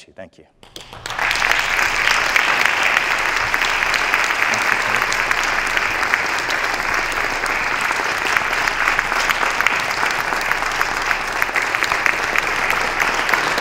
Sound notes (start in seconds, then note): 1.3 applause